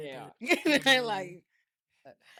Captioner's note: laughing